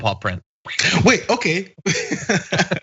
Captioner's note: laugh